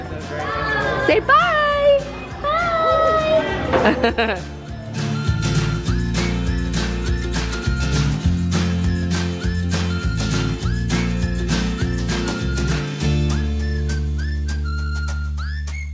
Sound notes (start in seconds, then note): 3.6 giggles; 6.0 upbeat whistling music